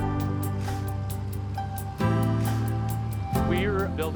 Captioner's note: construction noise